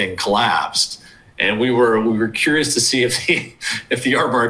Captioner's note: laughs